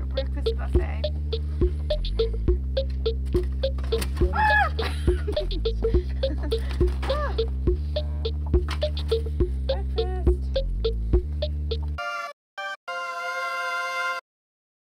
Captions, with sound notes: Your breakfast buffet. (screaming) Breakfast. (exciting music)